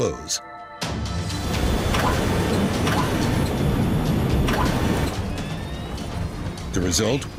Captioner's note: intense music; machinery whirring